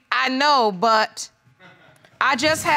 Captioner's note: man chuckles